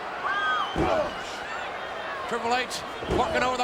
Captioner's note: foot stomps